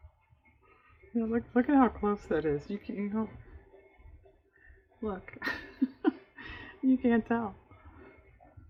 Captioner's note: laughs